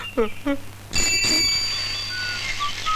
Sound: cycle bell rings

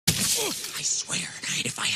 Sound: grunt

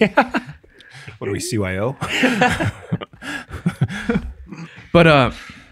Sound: laughs

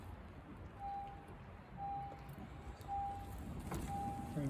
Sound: slow car beeps

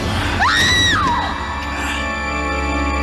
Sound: Meg screams

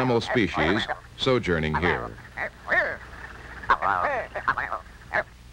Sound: bird sounds

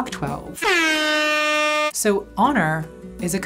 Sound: airhorn blast

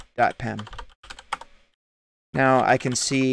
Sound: keyboard typing

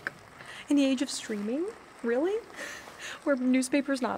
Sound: laughs

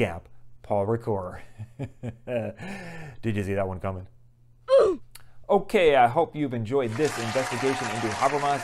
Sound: applause

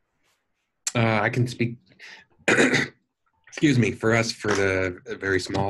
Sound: coughs

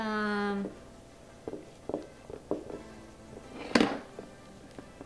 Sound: tapping sounds

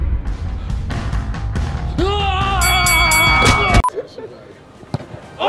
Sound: Simon screaming

